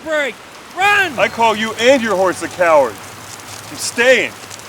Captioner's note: voiceover